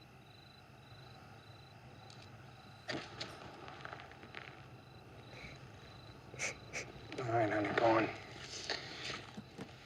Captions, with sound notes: ( sobs ) ALL RIGHT, I'M GOING.